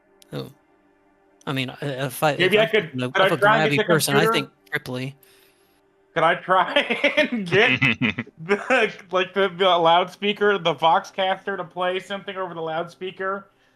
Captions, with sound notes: Oh, I mean, yeah, I could go for the person. I think Cripley. Can I try and get *laughs* like they've got a loudspeaker, the vox caster, to play something over the loudspeaker,